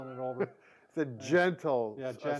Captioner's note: laughs